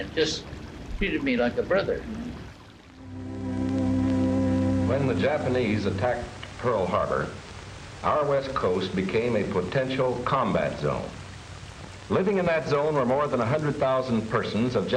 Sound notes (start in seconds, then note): 3.4 soft music begins; 3.4 water flowing